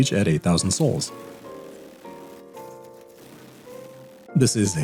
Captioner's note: rapid sounds of spitball launchers